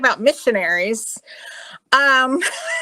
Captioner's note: laughing